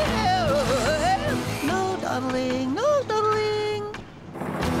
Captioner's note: none